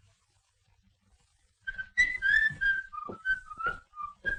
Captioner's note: whistling